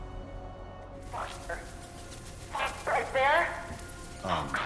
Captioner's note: garbled radio message